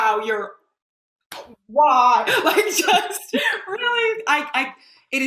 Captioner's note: laughs